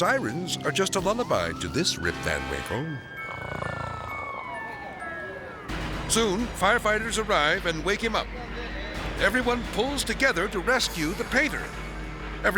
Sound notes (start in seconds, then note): 3.1 person snoring